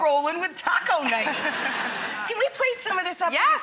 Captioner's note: audience laughs